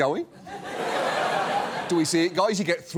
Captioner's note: studio audience laughs